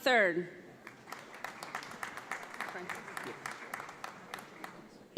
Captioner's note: audience applauds